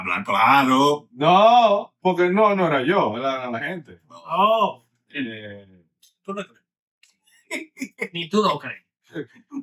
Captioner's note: speaking In Foreign Language